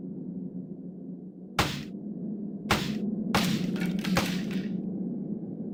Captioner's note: breaking wood